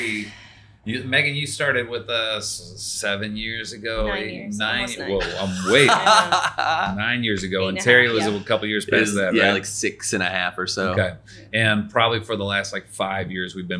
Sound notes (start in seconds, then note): 4.8 laughing